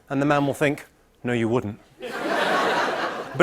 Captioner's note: laughter